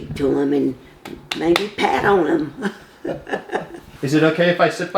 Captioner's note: chuckles